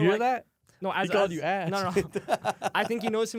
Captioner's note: laughs